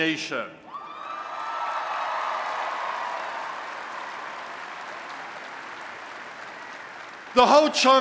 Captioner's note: applause and Cheering